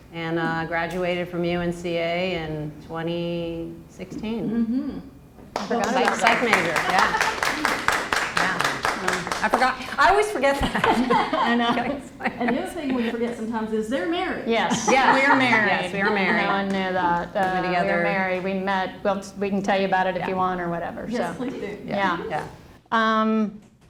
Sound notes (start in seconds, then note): 5.6 applause; 10.5 laughter